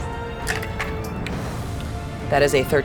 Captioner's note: dice rattling